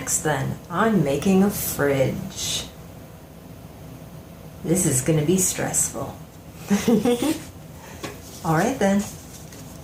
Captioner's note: giggles